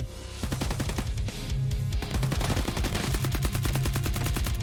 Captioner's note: bullets firing